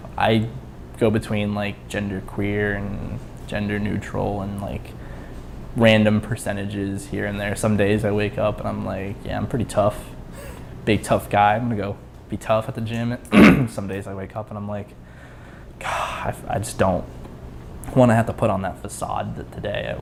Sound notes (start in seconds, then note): 13.3 clears throat; 15.6 sighs